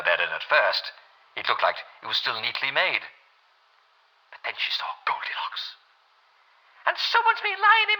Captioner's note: Jane Bear voice